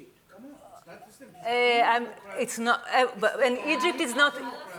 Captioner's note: speaking in Hebrew